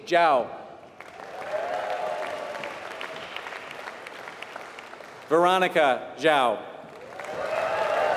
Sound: applause

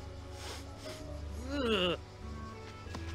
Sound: stifles a smirk

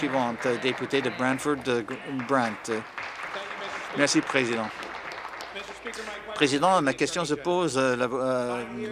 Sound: applause

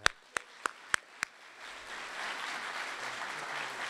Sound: audience applauding

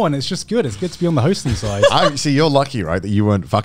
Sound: laughing

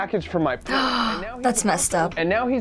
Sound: indignant gasp

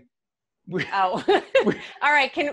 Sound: laughing

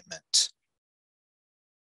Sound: none

